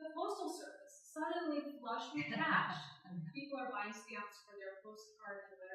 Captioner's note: laughter